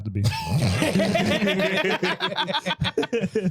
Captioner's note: laughing